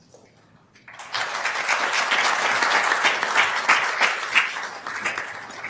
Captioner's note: attendees applauding